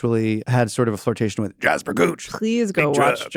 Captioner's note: imitates character